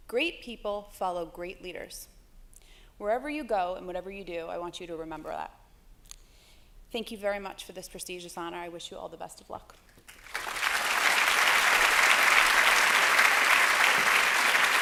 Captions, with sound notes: Great people follow great leaders. Wherever you go and whatever you do, I want you to remember that. Thank you very much for this prestigious honor. I wish you all the best of luck. [APPLAUSE]